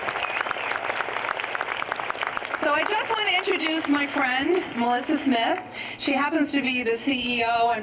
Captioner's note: applause